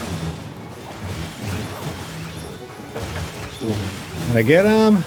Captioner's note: humming